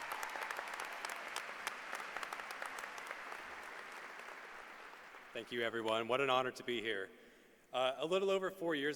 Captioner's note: applause